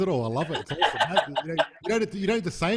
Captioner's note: loud laughing